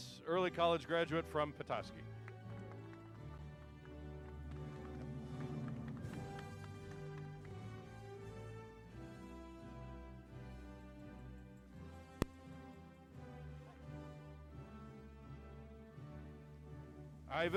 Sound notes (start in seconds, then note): 2.4 applause